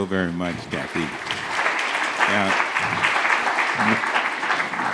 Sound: audience applauds

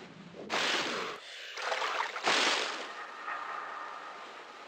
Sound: breathing

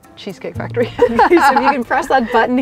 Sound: laughing

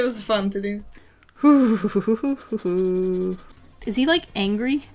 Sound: makes weird amusement park ride sounds

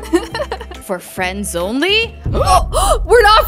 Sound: both gasp

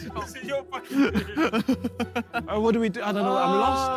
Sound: all laughing

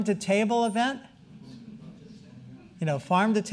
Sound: audience murmuring

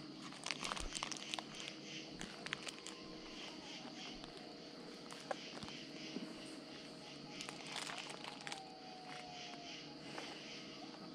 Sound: coyote howls

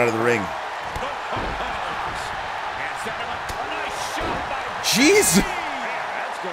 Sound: laugh

